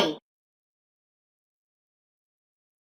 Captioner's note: long intentional silence